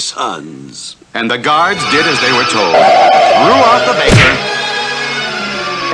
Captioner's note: smack!